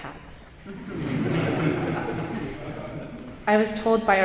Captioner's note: audience chuckling